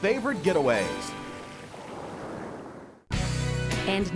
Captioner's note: sound of ocean